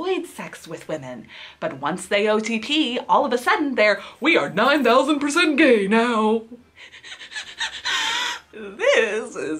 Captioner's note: whimpers